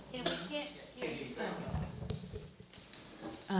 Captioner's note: murmuring